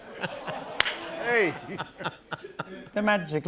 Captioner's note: laughter